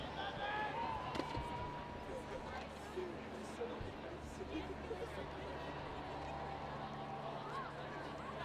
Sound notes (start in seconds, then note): 1.4 audience chattering